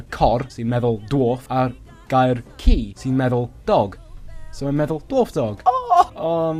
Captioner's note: squees with delight